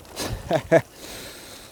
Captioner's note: nervous laughter